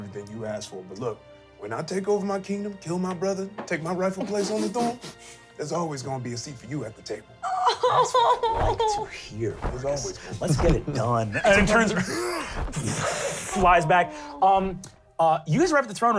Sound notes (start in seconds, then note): 4.2 laughs; 8.0 wings flapping